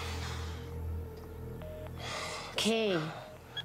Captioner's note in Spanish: sonido de teléfono descolgado